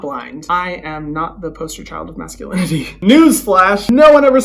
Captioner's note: chuckles